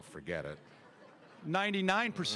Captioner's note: audience laughter